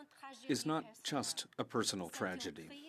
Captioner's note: speaking French